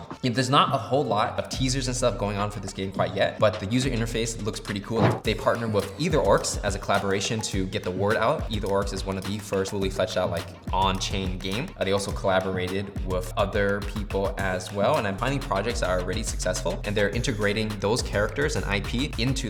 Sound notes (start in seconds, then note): 5.4 musical swoosh